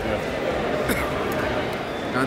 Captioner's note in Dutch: gekuch